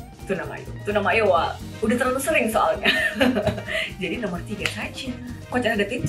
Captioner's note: laughs